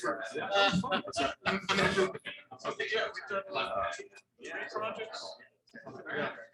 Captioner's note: people chattering indistinctly